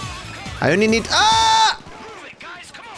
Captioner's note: screams